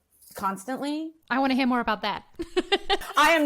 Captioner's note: laughs